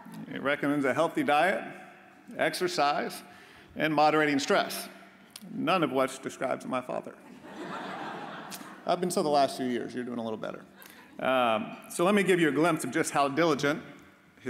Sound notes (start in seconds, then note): 7.3 audience laughs